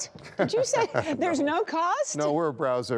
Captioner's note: laughter